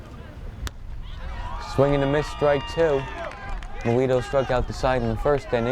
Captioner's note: fans cheer